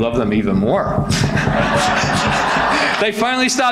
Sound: audience laughs

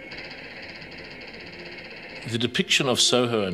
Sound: faint, repetitive tapping

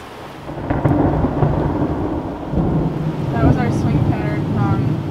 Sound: thunder blasting

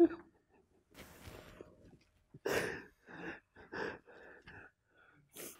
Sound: he's crying

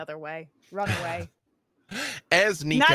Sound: laughing

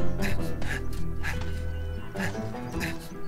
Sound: panting

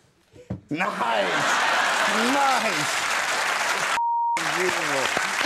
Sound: audience applauding

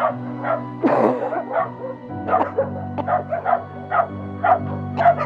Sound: coughs

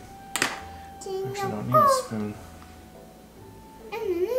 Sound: mumbles

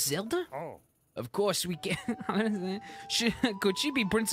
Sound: laughing

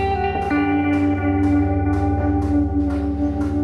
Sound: construction work sounds

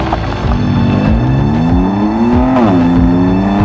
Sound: engine roars

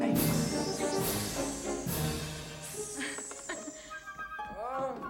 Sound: hissing

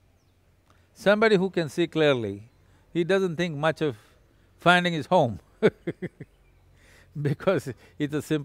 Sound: laughs

